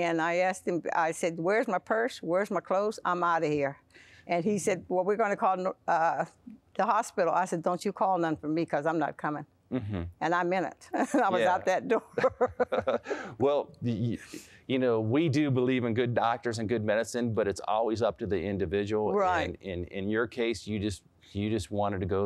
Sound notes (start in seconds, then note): 12.0 laughter